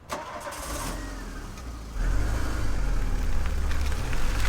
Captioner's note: engine rumbling